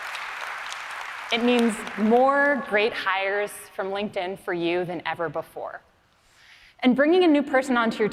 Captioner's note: applause